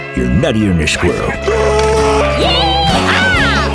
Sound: screaming

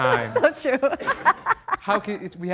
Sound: laughing

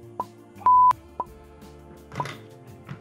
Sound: beep

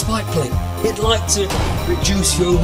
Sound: bang!

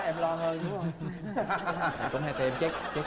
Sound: laughing

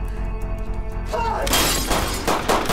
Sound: shouts

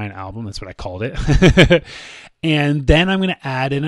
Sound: laughs

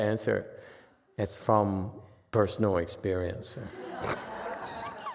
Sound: laughs, audience laughs

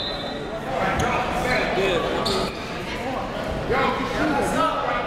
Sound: whistle blows; crowd talking

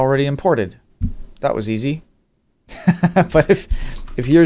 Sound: laughs

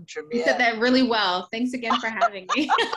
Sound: laughs

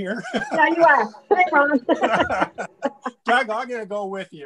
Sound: laughter

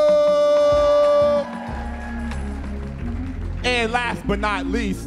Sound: audience cheering

